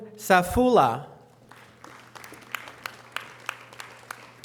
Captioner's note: audience applause